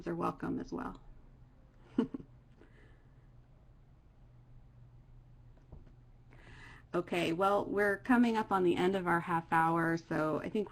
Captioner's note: laughter